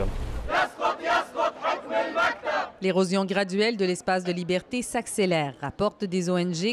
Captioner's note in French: cris des manifestants